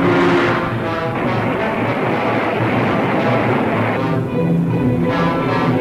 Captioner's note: car engine revving; suspenseful music; water splashing